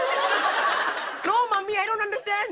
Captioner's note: laughter